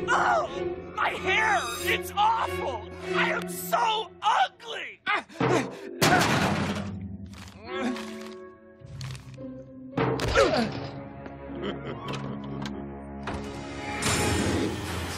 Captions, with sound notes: Oh! My hair! It's awful! I am so ugly! (Grunting) (Grunting) (Chuckling) (Door opening and closing)